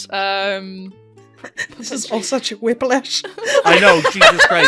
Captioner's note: laughter; laughing